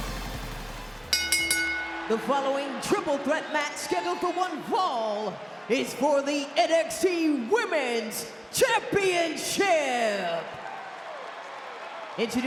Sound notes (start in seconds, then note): 1.0 bell dinging; 1.7 crowd cheering; 11.1 crowd cheering